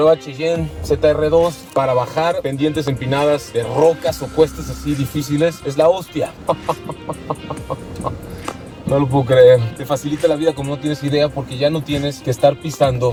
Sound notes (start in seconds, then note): 6.3 laughter